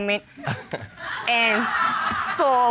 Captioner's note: chuckles